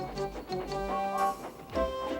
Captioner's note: toot toot